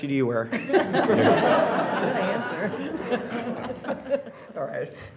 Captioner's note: board members laughing